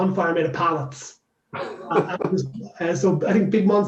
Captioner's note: laughs